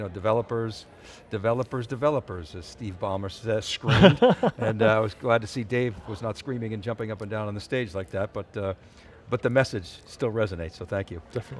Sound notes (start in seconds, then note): 3.8 laughing